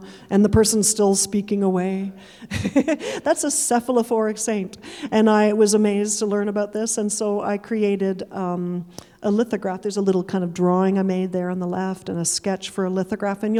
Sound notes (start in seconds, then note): 2.4 audience chuckling; 2.4 chuckling